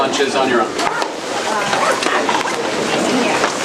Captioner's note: murmured discussion